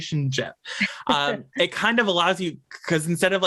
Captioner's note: laughs